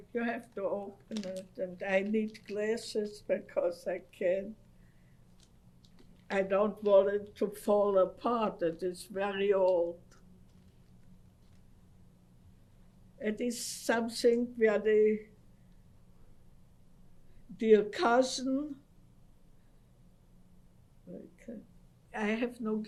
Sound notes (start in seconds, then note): 9.9 pauses for 3 seconds